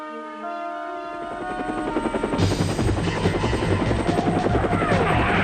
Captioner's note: helicopter sounds